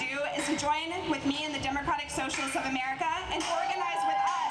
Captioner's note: audience cheering